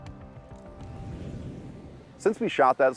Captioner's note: whooshing